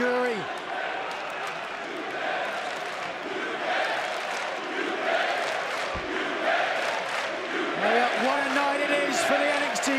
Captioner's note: crowd cheering